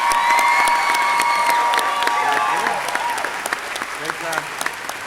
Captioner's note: audience cheering; audience clapping